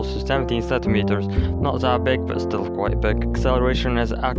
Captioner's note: exhalation